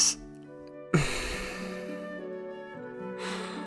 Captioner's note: sigh